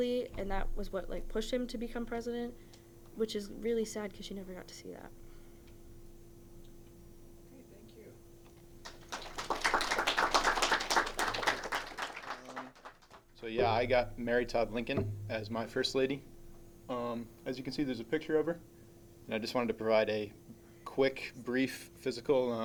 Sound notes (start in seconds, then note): 8.8 clapping